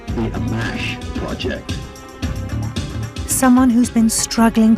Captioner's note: voiceover